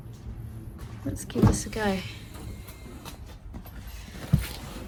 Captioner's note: car door opens and car makes slight whirring noise